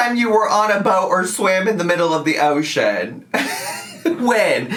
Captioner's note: laughs